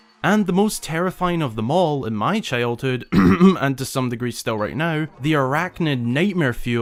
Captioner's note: cough cough